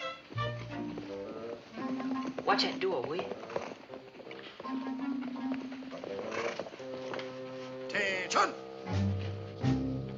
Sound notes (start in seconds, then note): 4.3 horses approaching; 10.0 whispers